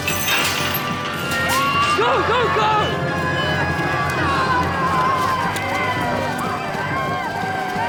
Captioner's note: chain breaking; all cheering